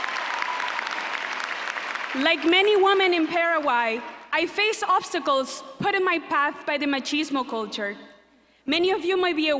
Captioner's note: applause